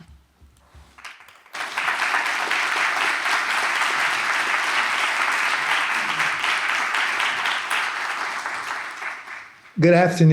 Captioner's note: applause